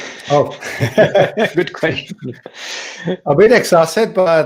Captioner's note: people laughing